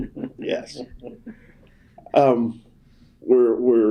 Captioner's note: laughter